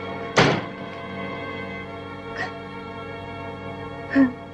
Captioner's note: sobbing